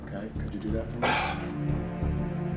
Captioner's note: scoffs